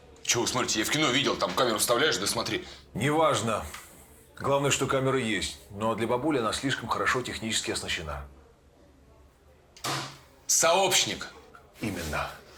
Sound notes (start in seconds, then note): none